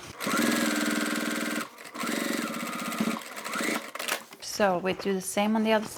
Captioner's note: sewing machine whirring